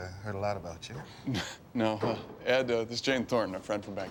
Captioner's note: chuckles